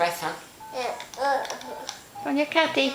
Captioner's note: thoughtful sounds